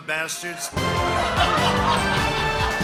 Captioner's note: laughter